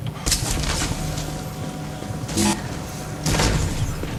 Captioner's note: gunshot sounds